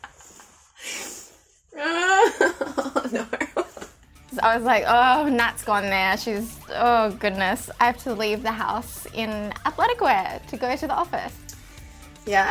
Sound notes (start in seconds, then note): 1.7 moans